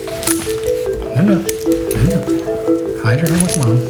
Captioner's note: object clangs